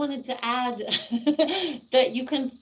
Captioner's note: chuckling